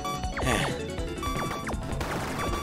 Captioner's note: sigh